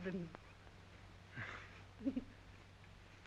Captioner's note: giggling